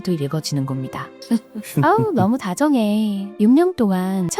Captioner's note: laughs